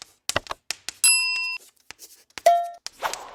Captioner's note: bell rings